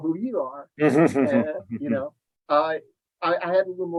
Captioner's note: laughing